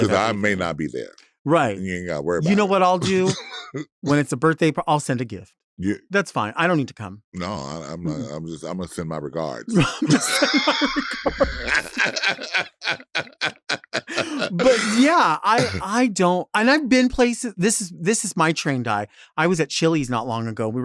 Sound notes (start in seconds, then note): 9.7 chuckles; 12.4 Latrice laughing